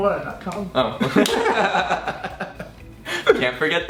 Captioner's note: laughing